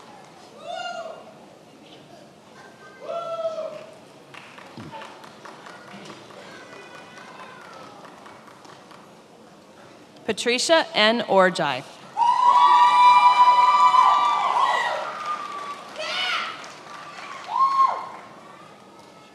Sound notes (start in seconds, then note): 12.2 attendees applauding and cheering